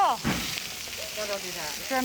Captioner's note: fire roars